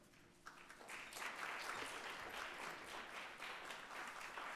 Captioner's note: audience applauding